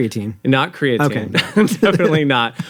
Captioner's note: chuckles